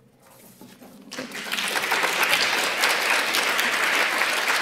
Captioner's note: applause